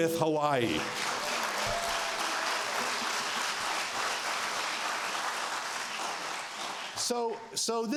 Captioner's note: applause